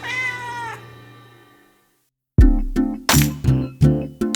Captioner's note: cat meowing; relaxing music